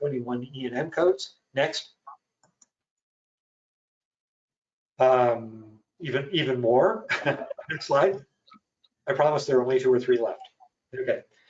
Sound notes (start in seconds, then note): 7.0 chuckles